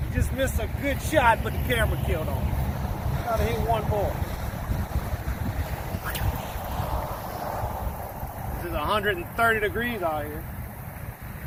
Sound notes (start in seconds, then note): 5.8 sling whips; 7.4 splash